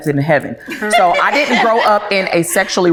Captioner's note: ladies laughing